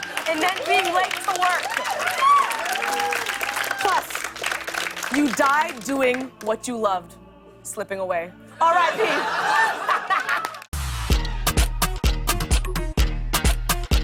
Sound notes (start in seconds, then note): 8.6 laughs